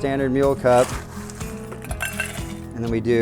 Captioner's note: ice clinks